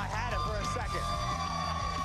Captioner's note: cheers and applause